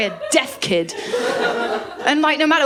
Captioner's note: laughter